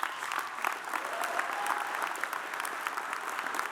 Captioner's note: audience applauds